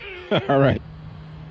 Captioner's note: laughing